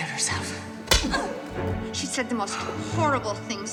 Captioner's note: slap